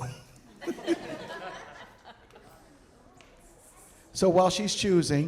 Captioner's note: audience laughing